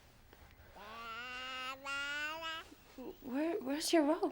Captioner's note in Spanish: balbuceo del bebé